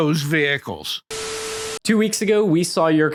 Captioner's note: static, test tone